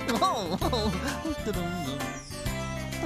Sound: chuckles

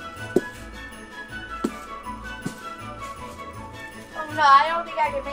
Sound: footsteps thudding

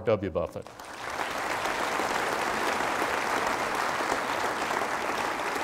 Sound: applause

